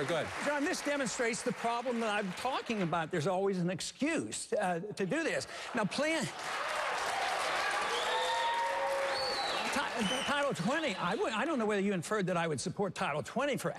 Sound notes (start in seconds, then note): 7.3 applause